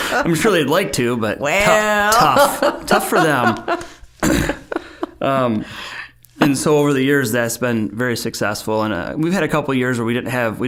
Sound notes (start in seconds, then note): 0.0 both laughing; 4.7 both chuckling